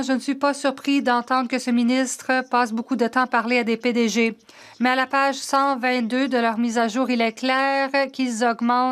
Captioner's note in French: voix de l'interprète